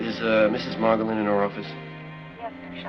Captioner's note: on phone